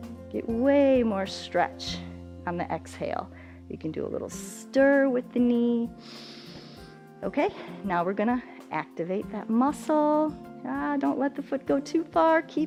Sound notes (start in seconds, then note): 6.0 inhales